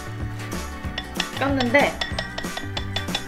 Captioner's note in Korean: 두드리는 소리